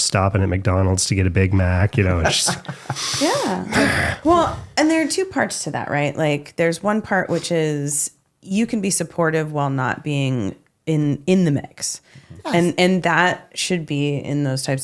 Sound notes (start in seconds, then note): 1.9 laughing